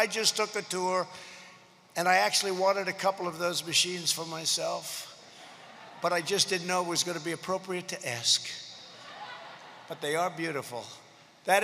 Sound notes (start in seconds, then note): 5.3 laughter